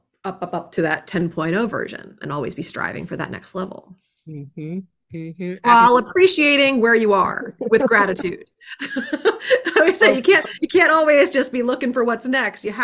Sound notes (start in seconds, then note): 8.6 laughs